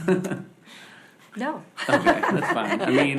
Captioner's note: laughs